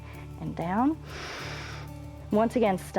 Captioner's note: inhales